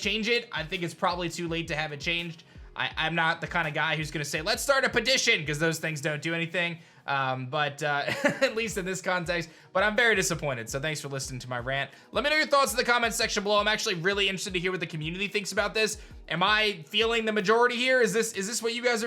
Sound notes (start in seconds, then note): 8.0 chuckles